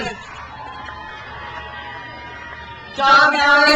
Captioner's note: crowd cheers